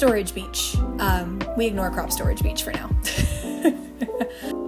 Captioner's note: laughter